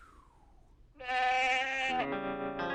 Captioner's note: bleating